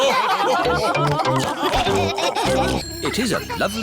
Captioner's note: laughter